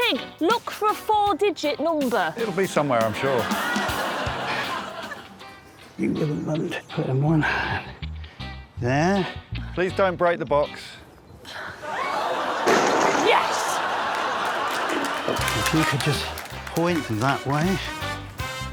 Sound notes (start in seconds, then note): 3.1 laughter; 13.4 box clatters